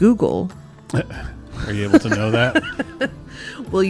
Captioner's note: laughs